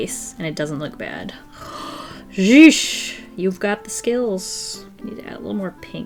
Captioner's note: gasps